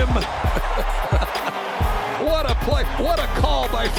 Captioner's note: laughing